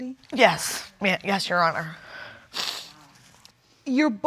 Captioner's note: sniffling